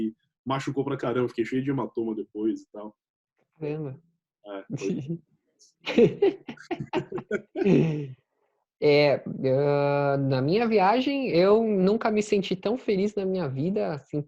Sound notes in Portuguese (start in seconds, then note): 5.8 risos